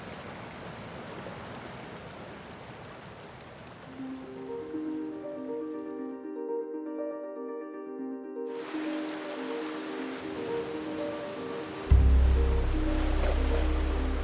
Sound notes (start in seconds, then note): 3.6 soft upbeat music; 8.5 water rushing